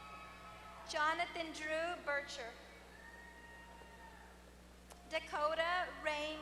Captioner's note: applause; applause